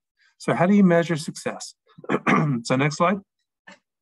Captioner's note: clears throat